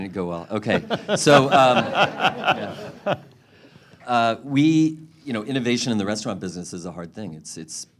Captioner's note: laughter